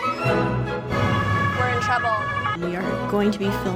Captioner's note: sirens